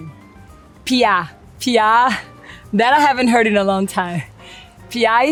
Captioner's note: speaks Portuguese